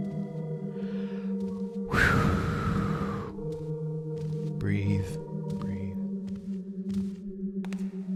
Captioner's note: loud exhale